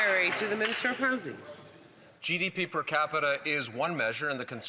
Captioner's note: some Applause